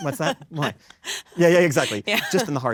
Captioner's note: laughs